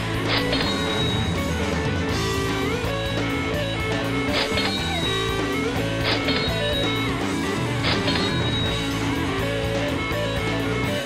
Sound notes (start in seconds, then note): 0.2 rock music; 2.6 cash register ringing; 5.7 rock music; 7.8 cash register ringing